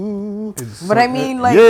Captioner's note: humming